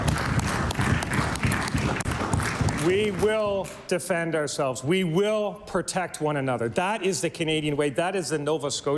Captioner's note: applause